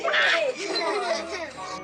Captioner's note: both giggle